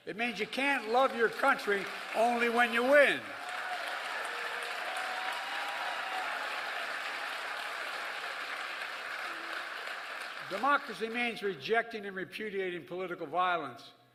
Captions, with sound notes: It means you can't love your country only when you win. (Applause.) Democracy means rejecting and repudiating political violence.